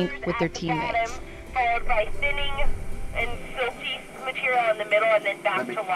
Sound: voice on radio

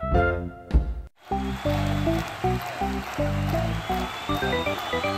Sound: crowd yelling

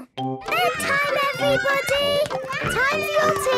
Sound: children playing

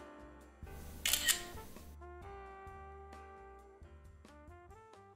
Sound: camera clicks

